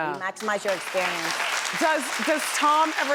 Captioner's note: audience applauds